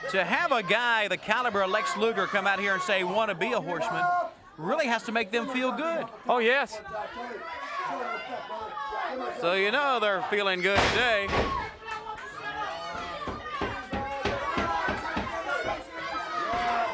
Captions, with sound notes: To have a guy, the caliber of Lex Luger come out here and say, want to be a Horseman, really has to make them feel good. Oh yes. (crowd clamoring) So you know they're feeling good today.